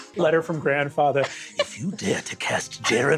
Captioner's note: in Grandfather's voice